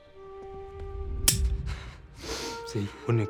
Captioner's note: gun clicks